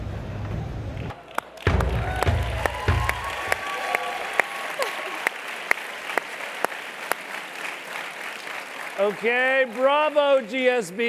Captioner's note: applause